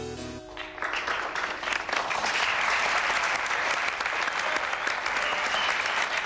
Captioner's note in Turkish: Alkış sesi